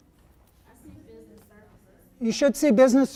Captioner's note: voiceover